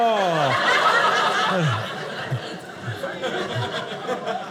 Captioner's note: audience laughing